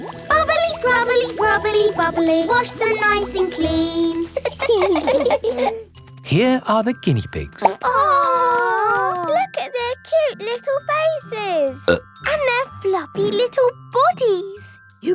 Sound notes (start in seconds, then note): 4.4 laughing; 7.6 plop